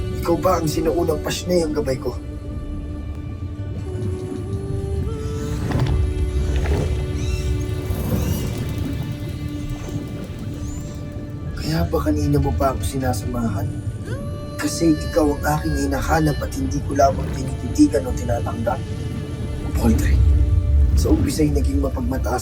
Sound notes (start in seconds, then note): 0.0 ethereal music playing; 2.9 water gurgling; 5.1 squeaks & squawks